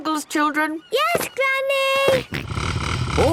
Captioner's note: snort